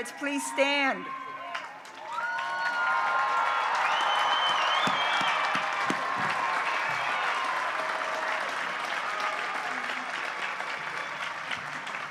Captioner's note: applause